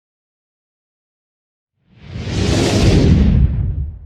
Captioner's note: screen whooshes